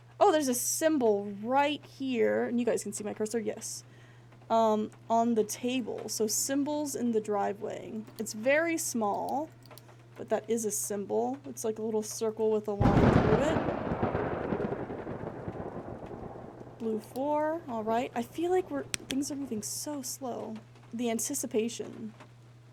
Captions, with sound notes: Oh! There's a symbol right here, and you guys can see my cursor? Yes. Um, on the table, so symbols in the Driveway. It's very small, but that is a symbol. Looks like a little circle with a line through it. [Thunder] Blue 4. All right. I feel like things are moving so slow. The anticipation.